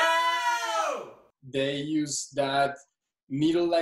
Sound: crowd Shouting

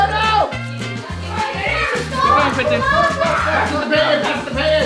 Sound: crowd noise

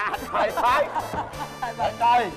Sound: laughing

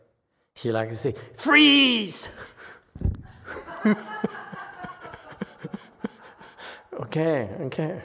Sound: mimes pointing gun at someone, laughs, audience laughs

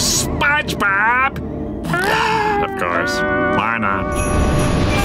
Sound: sighing

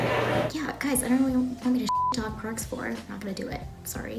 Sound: beep

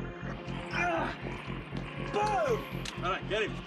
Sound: grunting

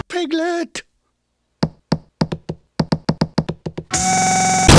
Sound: knocking on door

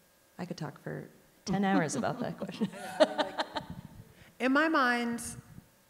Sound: laughs

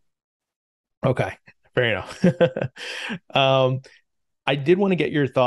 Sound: laughs

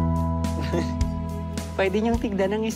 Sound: chuckles

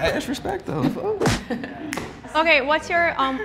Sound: fists bumping

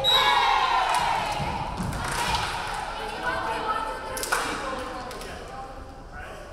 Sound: referee whistling; crowd cheering

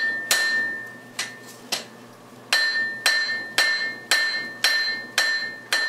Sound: hammering

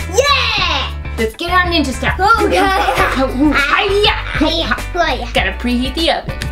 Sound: fighting sounds

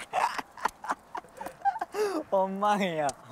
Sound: laughing

